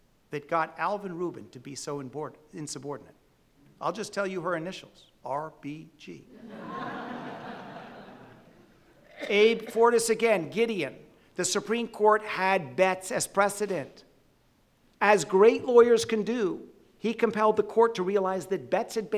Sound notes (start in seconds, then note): 6.3 audience laughing